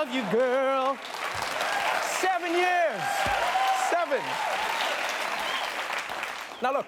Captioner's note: cheers and applause